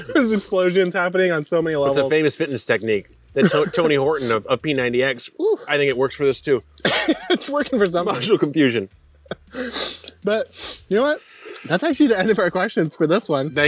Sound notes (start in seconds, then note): 9.4 sniffs